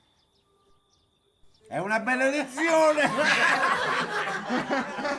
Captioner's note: laughter